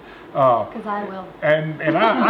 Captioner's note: laughing